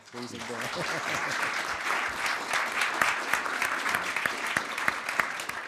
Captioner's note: audience applauding